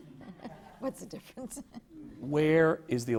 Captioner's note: laughter